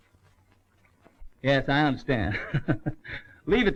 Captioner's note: chuckles